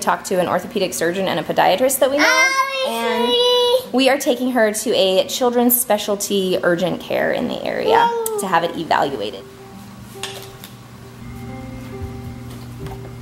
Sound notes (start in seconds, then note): 2.2 mumbles; 8.5 peaceful piano music